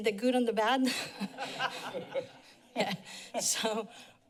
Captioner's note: laughter